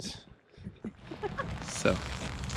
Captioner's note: laughs